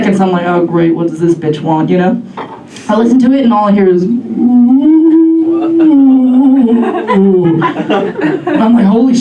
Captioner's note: moans and/or groans